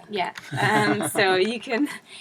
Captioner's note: laugh